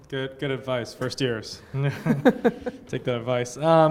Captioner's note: laughter